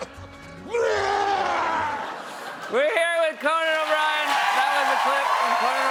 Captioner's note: cheers and applause; laughter